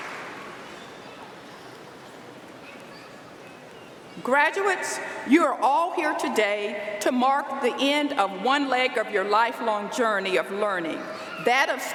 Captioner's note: applause